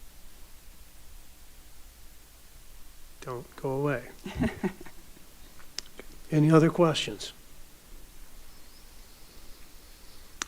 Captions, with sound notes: - Don't go away. (speaker laughing) - Any other questions?